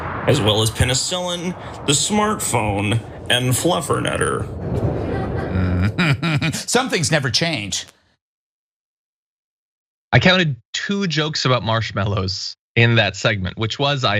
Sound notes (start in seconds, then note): 5.1 laugh